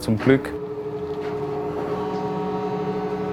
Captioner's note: machine whirring